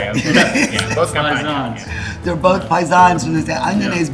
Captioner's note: all chattering